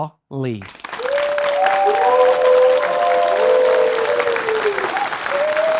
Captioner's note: audience cheering